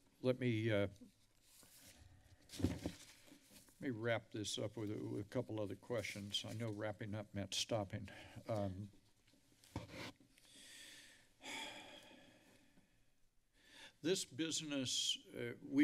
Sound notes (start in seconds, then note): 11.4 long deep sigh